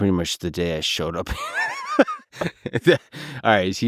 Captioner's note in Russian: Лекс смеётся